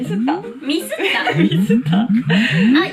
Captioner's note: laughs